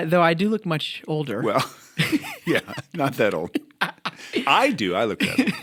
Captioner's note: chuckle